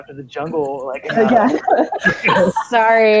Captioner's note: laughing